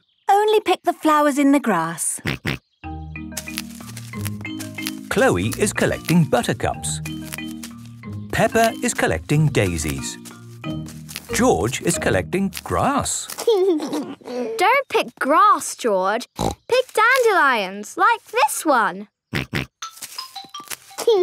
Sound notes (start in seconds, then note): 2.8 snorting; 13.3 giggling; 16.3 snorting; 19.5 snorting; 21.0 giggling